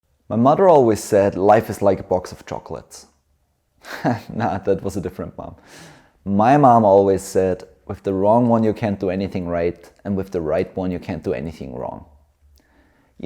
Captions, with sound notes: My mother always said life is like a box of chocolates. [chuckles] No, that was a different mom. My mom always said, with the wrong one, you can’t do anything right, and with the right one, you can’t do anything wrong.